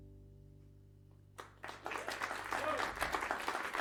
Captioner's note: cheers and applause